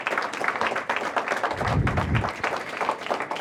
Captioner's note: applause